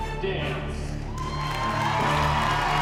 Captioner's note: cheering, applause